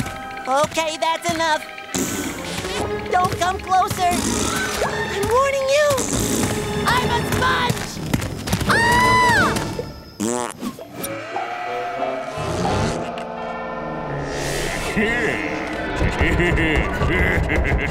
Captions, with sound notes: Okay, that's enough! [raspberry sound] Don't come closer! [raspberry sound] - I'm warning you! - [raspberry sound] I'm a sponge! [screaming] [blows a raspberry] [laughing]